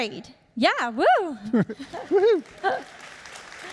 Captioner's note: laughing; audience applauding